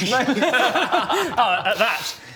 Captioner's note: schlaughs